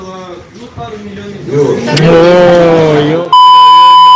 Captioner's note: noise in the hall